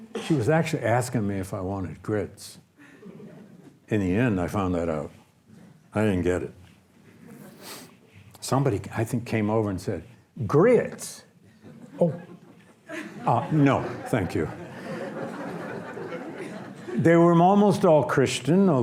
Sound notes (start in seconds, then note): 14.9 audience laughs